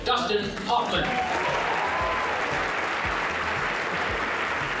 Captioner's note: crowd applauds